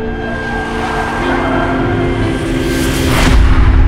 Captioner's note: tires squealing